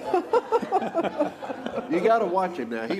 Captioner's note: laughter